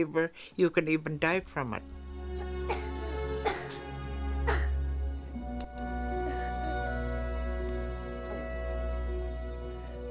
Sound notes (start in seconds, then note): 2.1 child coughing